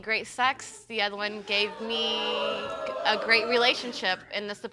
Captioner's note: audience moans